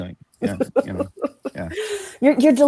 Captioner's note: laughs